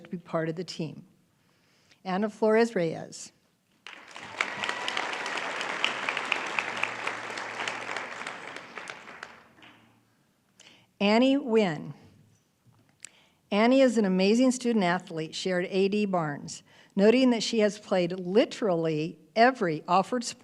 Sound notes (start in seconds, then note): 6.1 applause